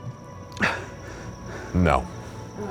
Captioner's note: breathing heavily